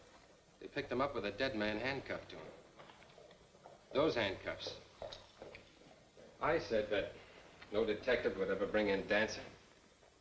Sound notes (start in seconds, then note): none